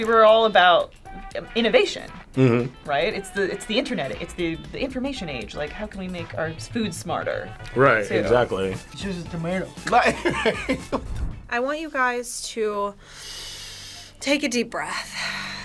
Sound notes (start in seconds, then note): 9.9 laughs